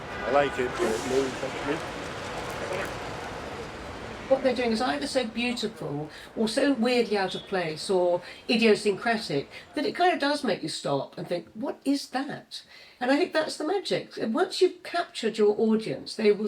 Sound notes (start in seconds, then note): 0.0 indistinct chatter; 2.5 cameras clicking